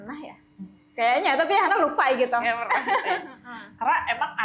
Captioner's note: laughs